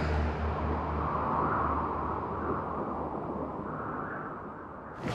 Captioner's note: intense music; wind howling